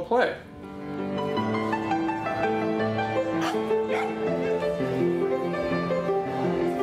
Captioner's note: people chattering